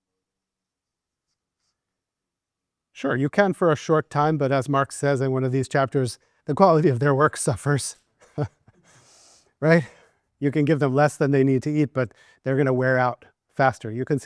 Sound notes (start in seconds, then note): 8.2 laughs